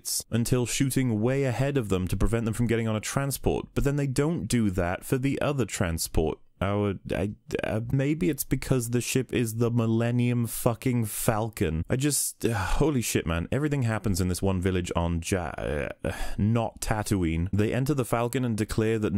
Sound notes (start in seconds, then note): 6.5 stammers; 12.3 sigh; 16.2 stammers